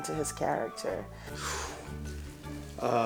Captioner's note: sighs